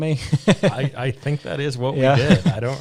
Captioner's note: chuckling